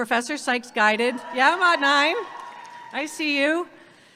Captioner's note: audience cheering